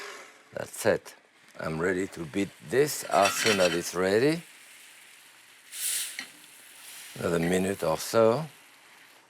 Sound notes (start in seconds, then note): 5.2 pan sizzles